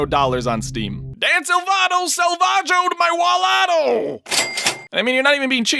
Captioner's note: cash register sound